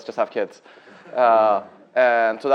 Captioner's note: chuckling